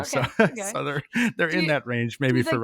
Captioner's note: chuckles